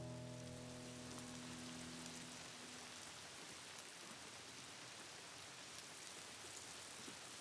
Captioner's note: rain falling